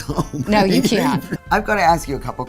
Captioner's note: laughs